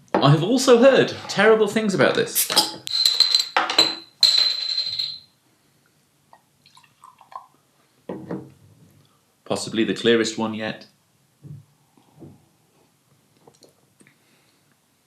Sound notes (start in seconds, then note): 2.3 bursting of air; 2.4 clanging of cap on floor